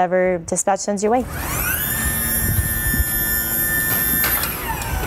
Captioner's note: gurney being lowered